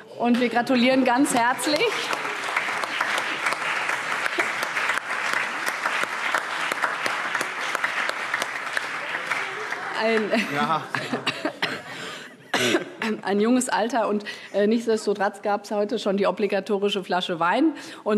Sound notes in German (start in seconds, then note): 2.3 Allgemeiner Beifall